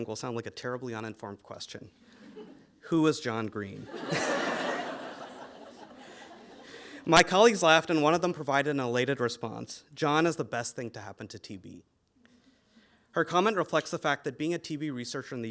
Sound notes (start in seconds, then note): 3.8 audience laughing